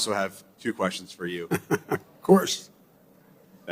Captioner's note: laughs